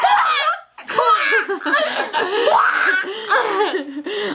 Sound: giggles

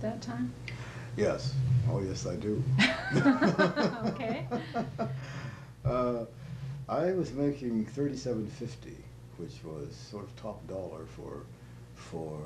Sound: laughter

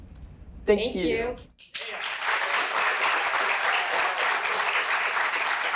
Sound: audience applauding

